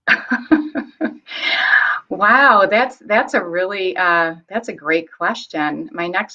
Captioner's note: laughs